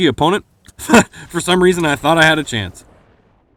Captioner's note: chuckles